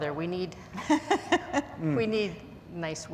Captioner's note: laughs